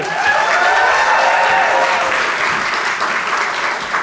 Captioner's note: audience cheering and applauding